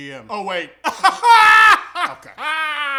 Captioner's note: weird laughing again